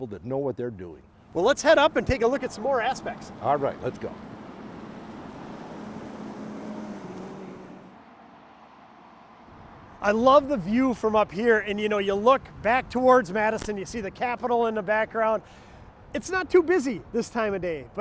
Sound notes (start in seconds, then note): 5.3 car engines revving